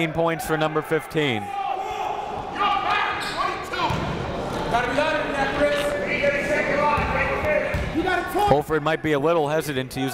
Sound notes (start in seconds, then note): 3.5 coaches yelling; 3.5 crowd talking